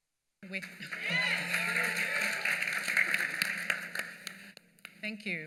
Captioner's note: applause